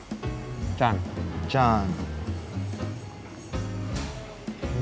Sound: both speaking Korean

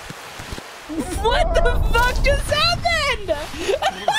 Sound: laughter

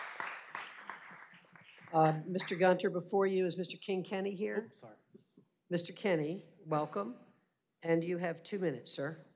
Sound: applause

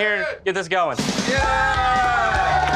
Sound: cheers

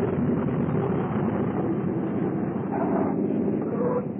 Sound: tires skid

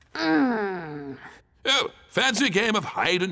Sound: growls

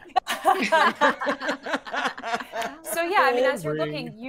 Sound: everyone laughs

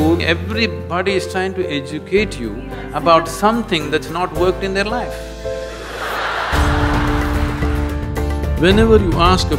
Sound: laughter

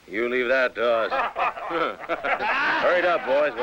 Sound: laughter

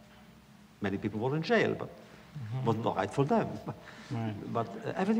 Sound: laughs

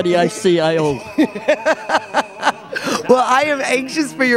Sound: laughter

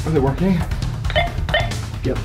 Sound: beeping

